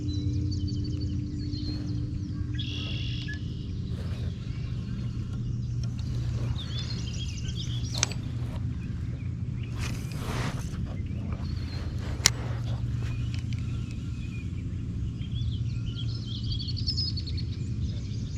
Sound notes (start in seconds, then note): 0.1 birds chirping; 9.6 rod whooshing; 15.3 birds chirping